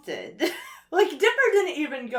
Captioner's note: chuckles